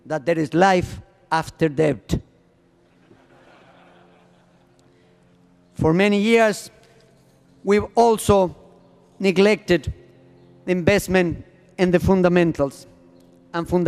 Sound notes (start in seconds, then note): 2.8 laughter